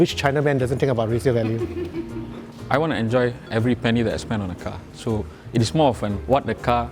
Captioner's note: laughs